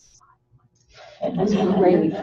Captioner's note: laughter